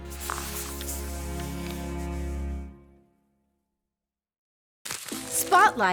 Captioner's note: paper rustling; soft music